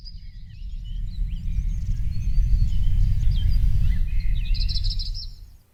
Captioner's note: birds chirping